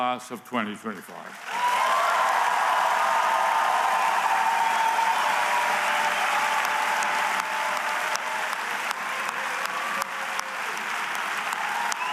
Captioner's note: cheers and applause